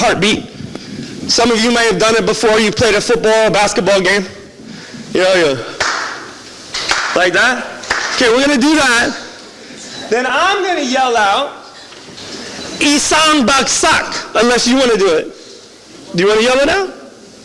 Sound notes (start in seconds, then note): 5.8 starts clapping